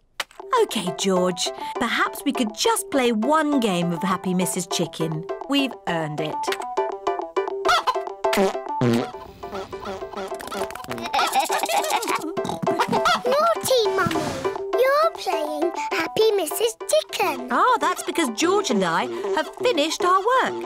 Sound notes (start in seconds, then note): 6.9 game jingle plays; 9.8 giggling